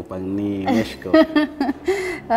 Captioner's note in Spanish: Risas